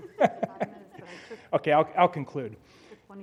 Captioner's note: laugh